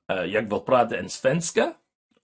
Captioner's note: speaking swedish